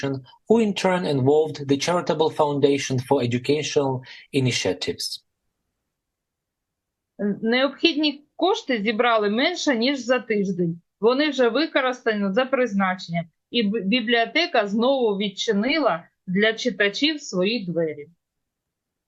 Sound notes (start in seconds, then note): 5.8 foreign language